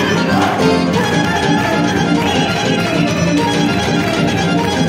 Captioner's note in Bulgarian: аплодисменти